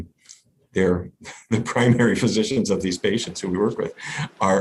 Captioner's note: laughs